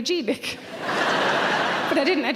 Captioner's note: audience laughter